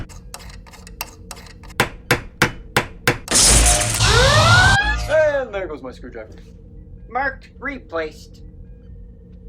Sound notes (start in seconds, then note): 0.0 screwdriver sounds; 1.7 hammering; 3.4 sound of a forcefield turning on. The vacuum and Red-Alert siren stop